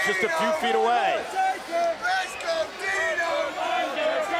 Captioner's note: crowd chanting